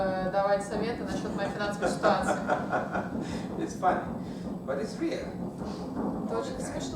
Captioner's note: hahaha